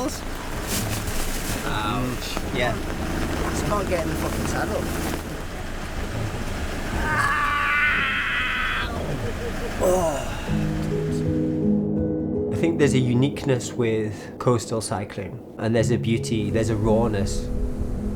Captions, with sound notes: In that case, I've been learning for the last 44 years and I just want some tailwinds and smoothness. [heavy rainfall] Hedonistic headwinds, sensational saddle sore, wet rain, has meant that...